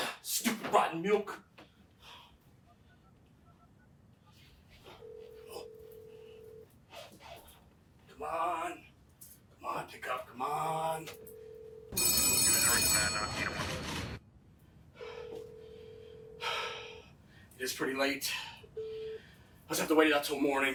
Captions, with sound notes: - Stupid rotten milk. (Phone ringing) Come on, come on, pick up, come on. (Phone ringing) It is pretty late. I'll just have to wait it out till morning.